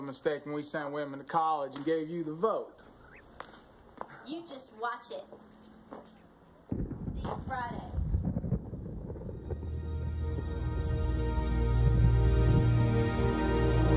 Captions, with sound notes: when we sent women to college and gave you the vote. You just watch it. See you Friday. (thunder roaring) (dramatic music)